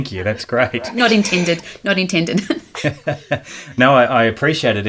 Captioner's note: laughing